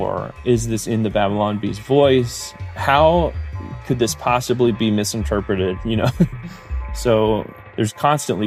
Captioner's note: laughs